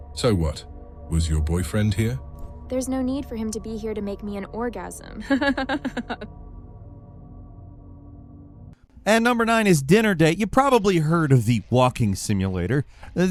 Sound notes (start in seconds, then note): 5.2 laughs